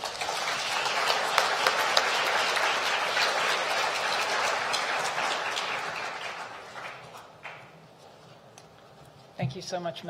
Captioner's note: applause